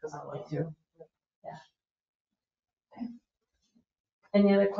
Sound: speaks distantly

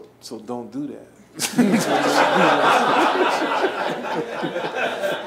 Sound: laughing

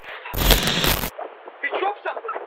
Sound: static hissing

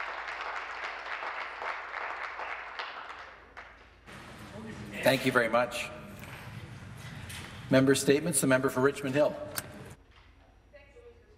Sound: applause

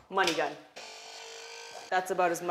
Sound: buzzing

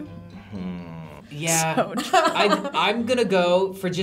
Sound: laughs

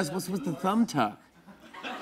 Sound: laughter

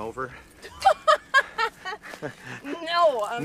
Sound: Lindsey laughs

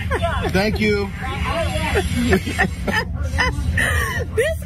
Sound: laugh

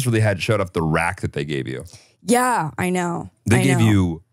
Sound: group laughing

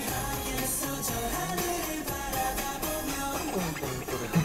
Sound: humming

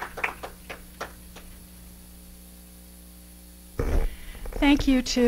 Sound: applause

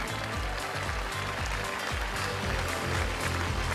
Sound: applause

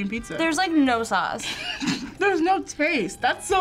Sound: snickers

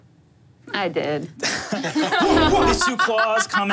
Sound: group laughing

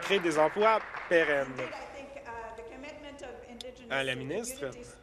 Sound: applause

